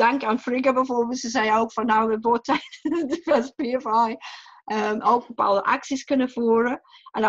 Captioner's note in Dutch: lacht